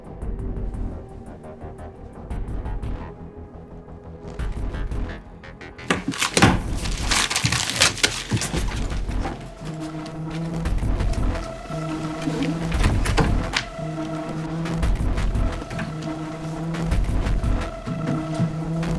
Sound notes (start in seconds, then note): 5.1 dramatic music continues; 5.8 paper ripping; 15.1 dramatic music continues